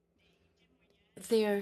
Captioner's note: speaking in French